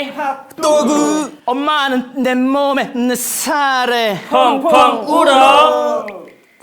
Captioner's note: sob sob